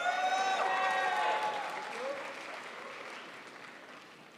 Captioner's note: crowd applauds